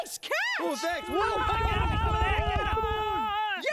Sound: monkeys shouting

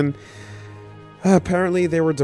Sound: sigh

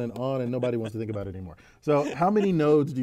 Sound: laugh

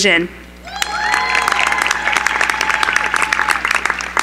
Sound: cheering

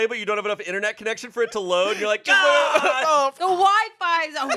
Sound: yells

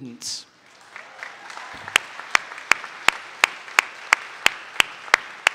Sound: audience applauding

